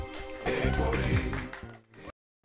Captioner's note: applause